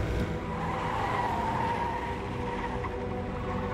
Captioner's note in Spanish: Neumáticos chirriando